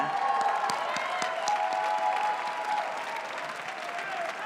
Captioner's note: cheering